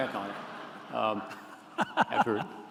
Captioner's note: laughter